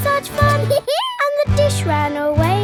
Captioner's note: dog laughs